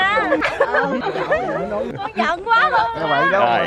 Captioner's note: the ladies are talking